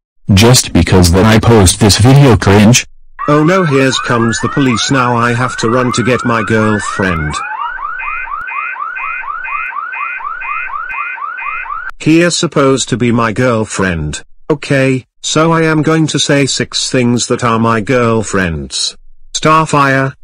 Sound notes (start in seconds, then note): 7.5 sirens